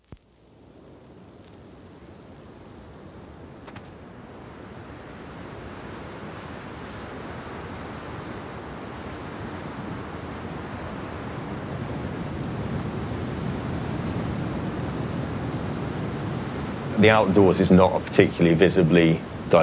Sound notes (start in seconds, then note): 0.2 atmospheric low rumble of wind across snow; 3.6 camera shutter - schuck; 6.6 wind across snow volume intensifies; 12.5 distant snow crunching underfoot